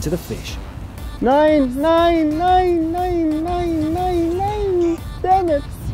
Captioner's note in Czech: mluví cizím jazykem